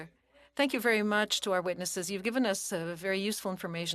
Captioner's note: speaking French